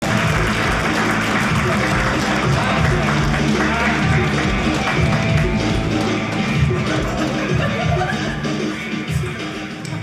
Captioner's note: audience cheering